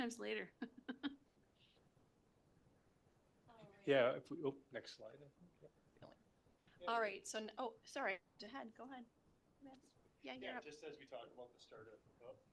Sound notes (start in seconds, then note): 0.6 laughter